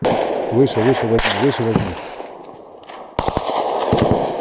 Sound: radio exchange

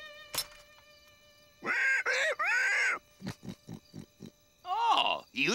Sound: rolo grunting

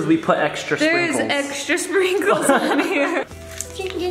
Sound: laughing

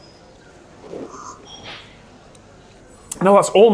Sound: both slurp

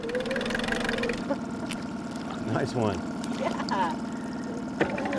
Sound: winch motor running

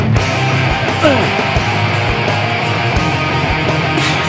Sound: heavy rock beat; grunting

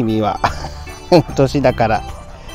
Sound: laughs

